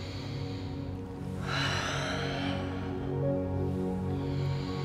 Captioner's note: breathing deeply